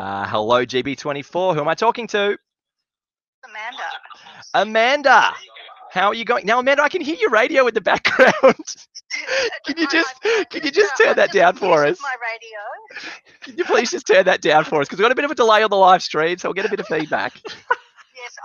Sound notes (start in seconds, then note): 9.0 laughing